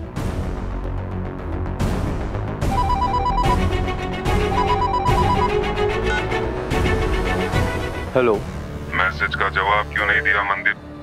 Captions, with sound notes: [tense music playing] [mobile ringing] - Hello? - Why didn't you reply to the message, Mandeep?